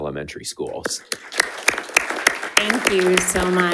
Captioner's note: panelists applauding